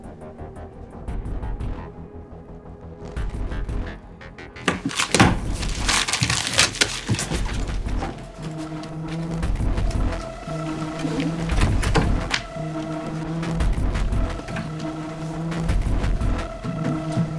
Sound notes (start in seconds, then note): 5.0 paper rustling; 7.4 dramatic music continues